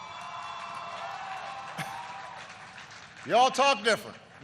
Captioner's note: applause